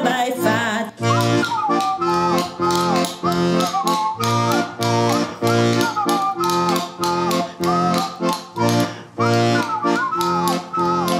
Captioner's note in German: Pfeifen und Löffelschlagen